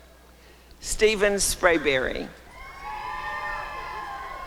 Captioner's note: applause and cheering